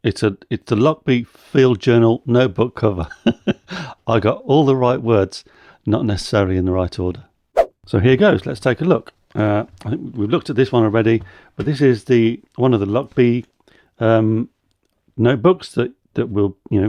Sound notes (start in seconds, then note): 3.3 laughs